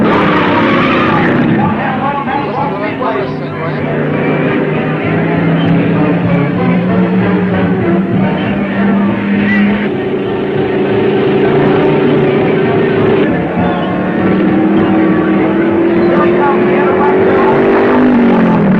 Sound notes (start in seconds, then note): 0.2 tires squealing; 2.9 thrilling music; 10.5 car thrumming; 14.8 car whirring